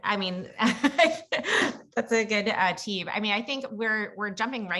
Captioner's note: laugh